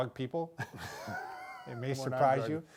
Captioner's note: both laughing